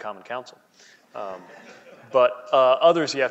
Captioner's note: laughing